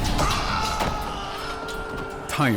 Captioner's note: screams